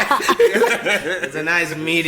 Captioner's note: everybody laughs